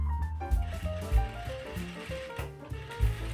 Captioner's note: sewing machine sounds